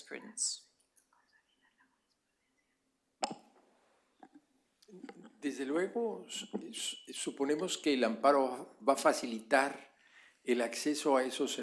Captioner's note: spanish